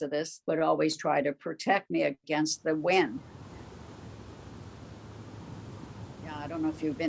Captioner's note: wind Sounds